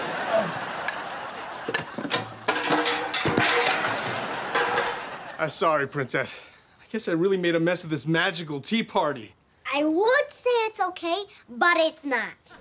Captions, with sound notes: [clanging] Sorry, princess. I guess I really made a mess of this magical tea party. I would say it's okay, but it's not.